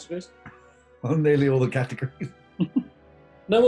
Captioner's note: chuckling